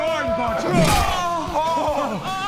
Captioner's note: thwack!